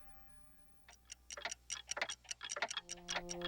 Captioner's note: clocks ticking